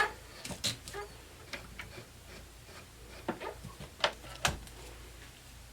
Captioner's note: machine squeaks and clicks